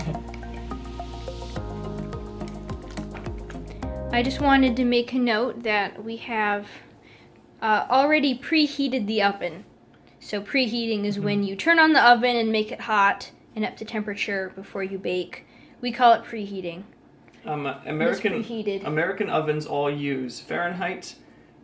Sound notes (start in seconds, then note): 1.8 squelch